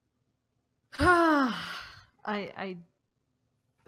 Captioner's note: sighs